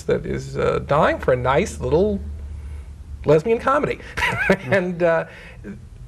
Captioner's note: chuckling